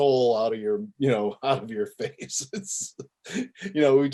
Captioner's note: laughs